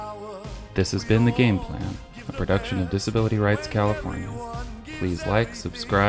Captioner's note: voiceover